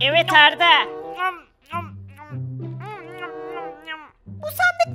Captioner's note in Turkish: Yemek yeme sesi